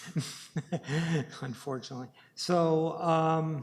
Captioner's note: chuckles